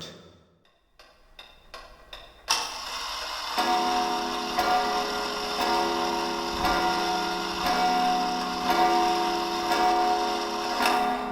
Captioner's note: ticking